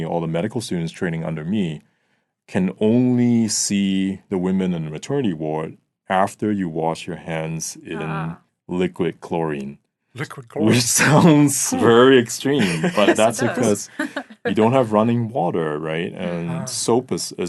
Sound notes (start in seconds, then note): 10.7 chuckling